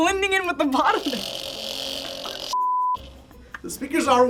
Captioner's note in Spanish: zumbido